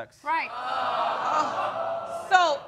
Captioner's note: audience exclaiming